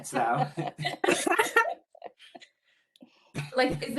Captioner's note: laughing